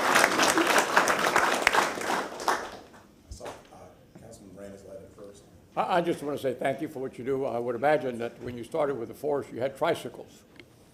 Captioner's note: applause